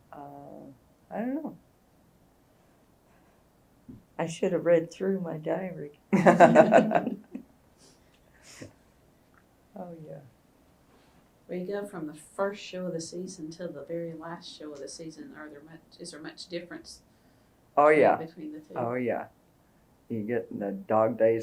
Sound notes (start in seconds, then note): 6.1 laughter